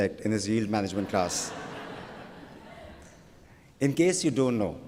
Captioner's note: laughter